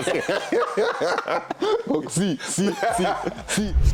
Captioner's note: gelächter